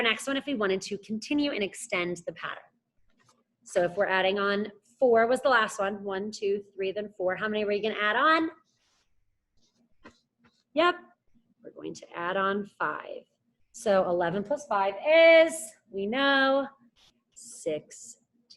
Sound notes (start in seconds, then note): none